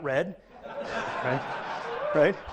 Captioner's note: audience laughs